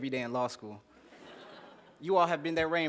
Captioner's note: laughter